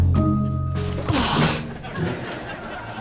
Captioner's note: sighing